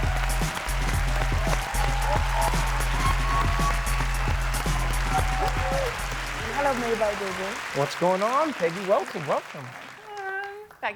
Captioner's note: applause